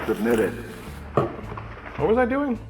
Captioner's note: popcorn noises over Supreme Court recording; popcorn container set down on table